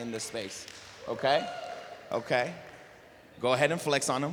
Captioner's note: applause